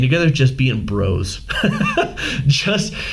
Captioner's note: laughing